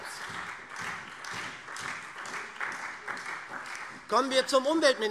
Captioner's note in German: Beifall SPD